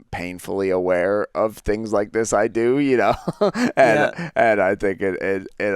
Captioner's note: laughs